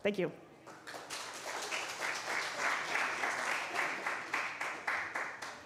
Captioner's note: applause